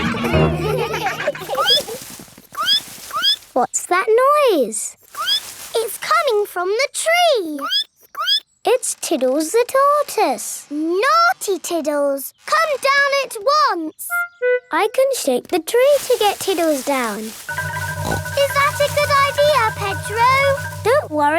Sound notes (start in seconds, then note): 0.0 all laughing; 1.0 squeaking; 5.2 squeak; 8.2 squeaking; 18.0 snorts